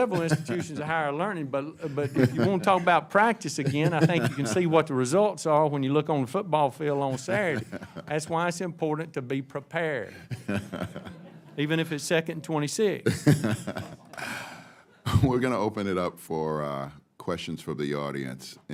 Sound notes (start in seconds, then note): 0.0 laughter; 10.1 laughs